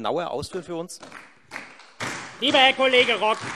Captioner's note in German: Beifall Freie Demokraten und SPD